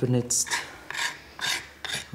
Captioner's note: scratching